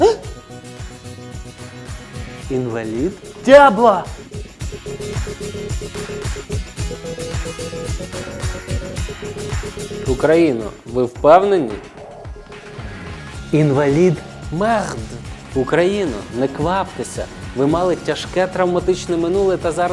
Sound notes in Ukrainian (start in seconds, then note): 15.0 Лається